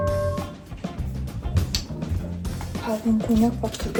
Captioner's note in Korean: 뚜벅뚜벅